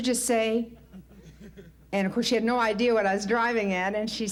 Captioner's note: light laughter